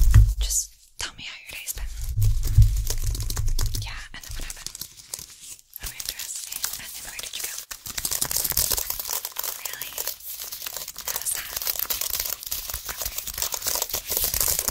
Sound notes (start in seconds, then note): 1.5 mouth Sounds with Brushing